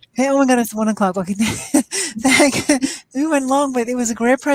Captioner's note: laughs